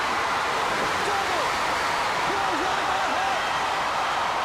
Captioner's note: crowd cheering